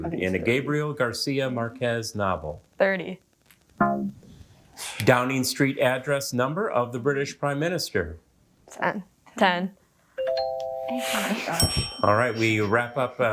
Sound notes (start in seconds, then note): 3.7 womp chimes; 11.5 musical notes chimes; 11.5 bell dings